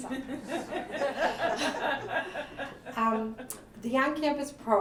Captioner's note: laughter